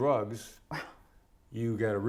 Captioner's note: scoffs